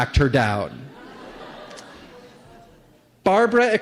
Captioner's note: laughter